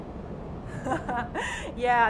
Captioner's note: laugh